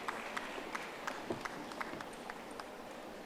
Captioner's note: audience applauding